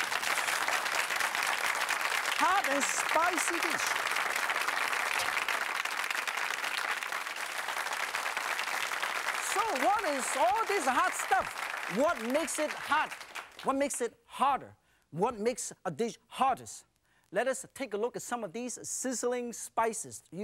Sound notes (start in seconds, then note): 0.2 applause; 4.6 crowd; 5.1 applause